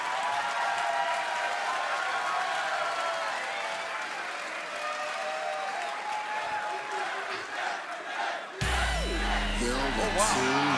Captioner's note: crowd cheering